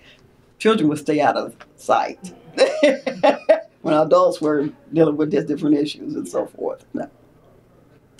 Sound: laughs

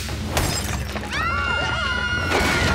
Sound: screaming

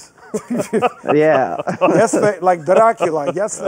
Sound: laughing

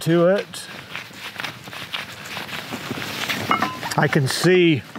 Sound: tools cluttering

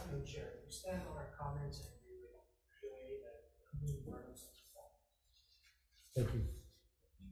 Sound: faintly speaking

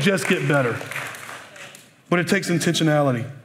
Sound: applause

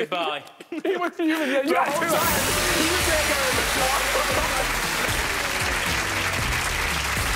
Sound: applauding and music drown out speaking

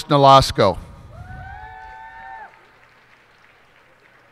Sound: cheers and applause

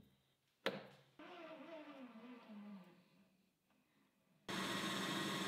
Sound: machine whirs

